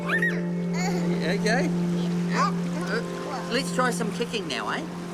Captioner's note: squeals, laughs